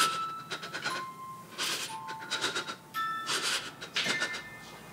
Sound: Lily shudders in fear

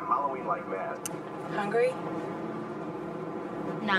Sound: clicks Off

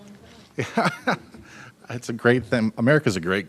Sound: laughing

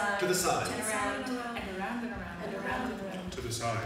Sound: voices

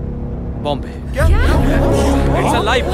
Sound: chaos amongst passengers

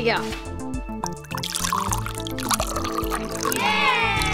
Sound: water pouring; children cheering

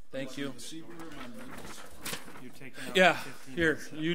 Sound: overlapping chattering

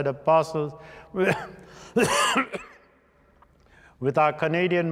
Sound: coughing

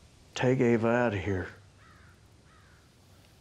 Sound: bird cawing

